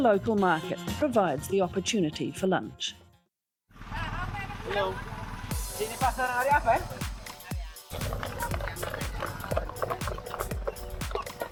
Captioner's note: chattering; chickens pecking